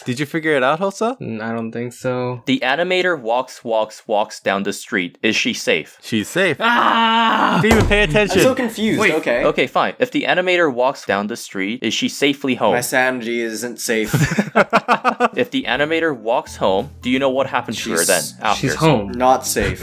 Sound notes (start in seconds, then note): 7.6 thud